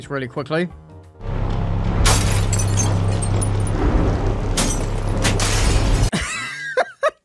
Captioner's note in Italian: Vetro che si rompe